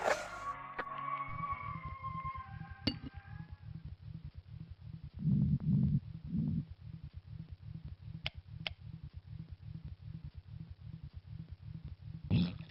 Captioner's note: machine distress